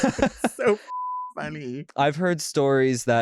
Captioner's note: beep